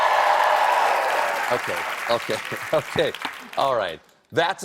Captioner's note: cheers and applause